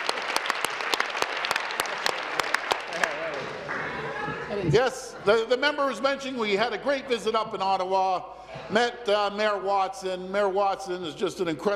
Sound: applause

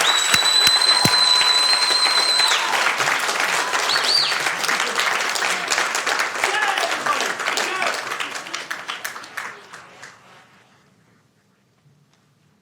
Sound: applauding

